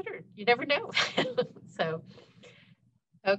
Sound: chuckles

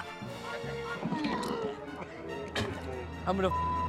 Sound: retching

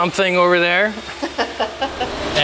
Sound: laughs

